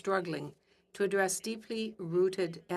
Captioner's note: speaking French